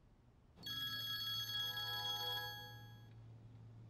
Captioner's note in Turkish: Telefon çalıyor